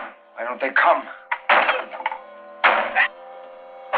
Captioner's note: door splintering